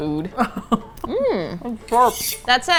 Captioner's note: laughs